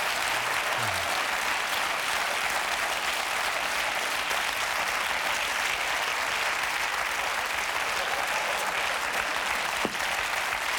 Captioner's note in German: Applaus